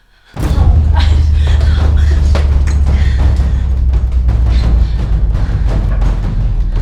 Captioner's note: Angela breathes frantically; dramatic music